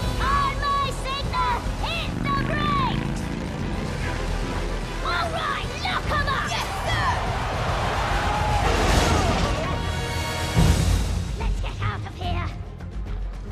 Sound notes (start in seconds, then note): 7.1 brakes screech